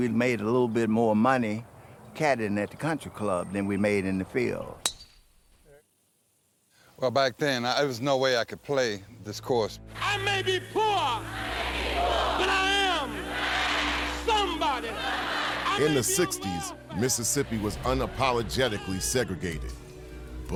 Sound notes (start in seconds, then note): 10.8 crowd; 15.8 crowd